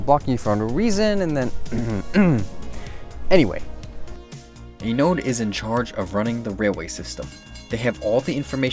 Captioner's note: ahem